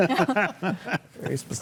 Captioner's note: panelists laugh